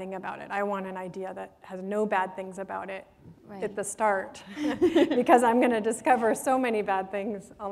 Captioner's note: chuckle